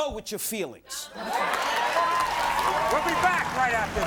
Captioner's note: audience cheering